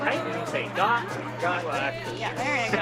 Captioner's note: students murmur and chatter